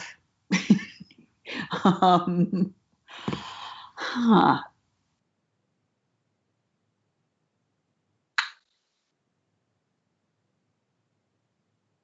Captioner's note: laughs